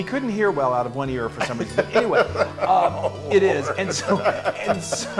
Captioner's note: laugh